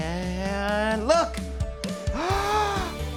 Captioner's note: gasps